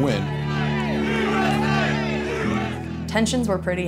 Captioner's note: crowd